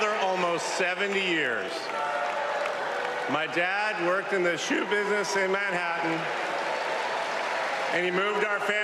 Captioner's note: applause